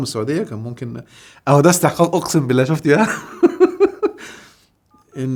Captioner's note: laughs!